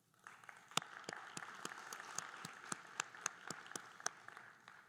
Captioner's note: group applauding